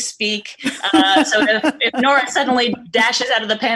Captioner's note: laughing